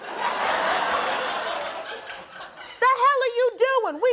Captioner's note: audience laughing